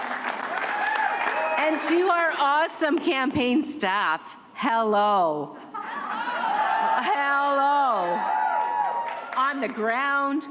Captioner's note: cheers and applause